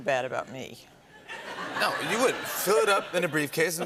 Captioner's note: laughter